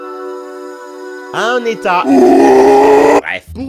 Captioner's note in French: cri démoniaque